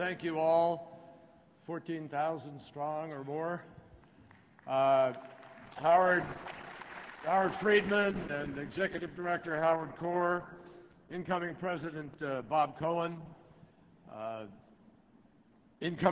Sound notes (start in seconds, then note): 4.0 applause